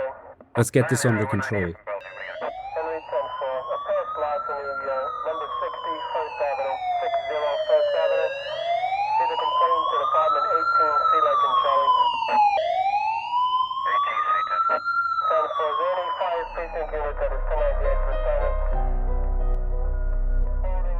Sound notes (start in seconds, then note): 2.3 siren blaring; 16.5 tense music